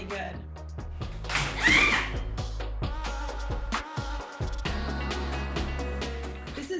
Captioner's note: crashes; shouts